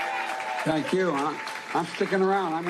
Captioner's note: cheers and applause